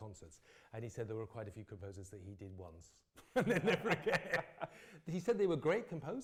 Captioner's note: laughs